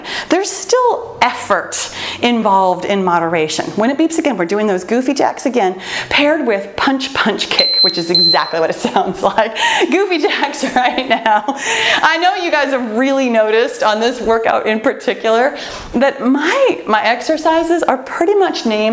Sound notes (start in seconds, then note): 7.5 timer beeping; 9.5 laughs; 11.1 laughs